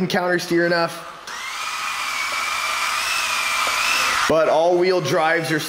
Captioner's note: motor whirs